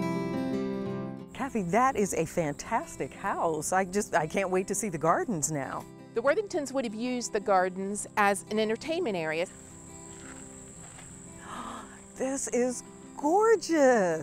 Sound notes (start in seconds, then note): 11.3 gasps